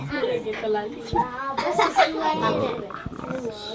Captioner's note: kids In Unison; kids chatter